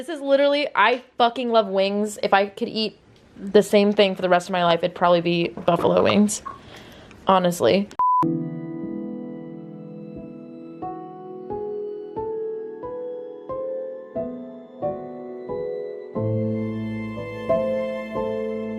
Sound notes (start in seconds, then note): 8.0 harsh beep; 9.5 hopeful piano music